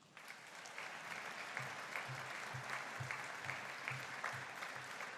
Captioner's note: audience applauding